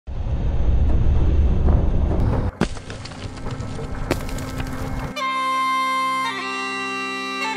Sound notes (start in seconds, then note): 0.1 rumbling; 2.3 cracking; 5.0 bagpipes music